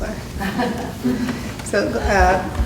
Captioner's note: laughter